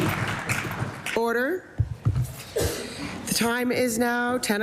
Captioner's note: applause